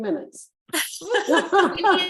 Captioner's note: chuckles; laughing